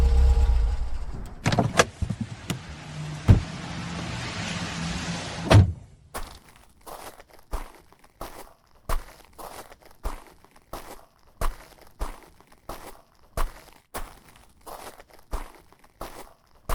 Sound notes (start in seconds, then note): 1.2 car doors open and shut